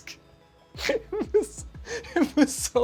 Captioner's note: laughing